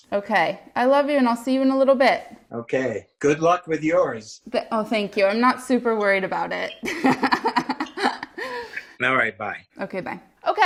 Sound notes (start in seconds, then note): 6.8 laughs